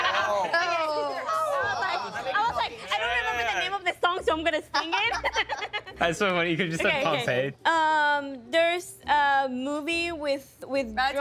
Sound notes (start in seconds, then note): 0.0 laughing; 4.8 laughing